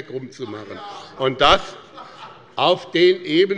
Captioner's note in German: Lachen